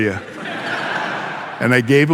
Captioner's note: audience laughing